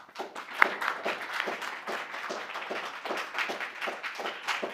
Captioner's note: applause